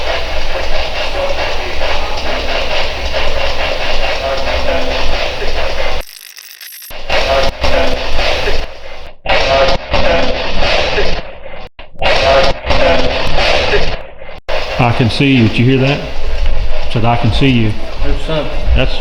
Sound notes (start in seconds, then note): 6.2 radio scratching; 9.1 radio voice